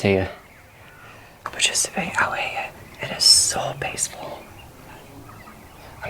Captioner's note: whisper